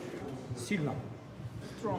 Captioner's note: speaking in foreign language